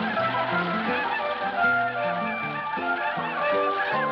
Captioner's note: Apaches ululating